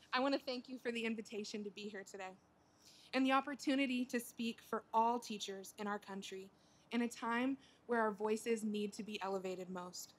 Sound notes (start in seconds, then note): none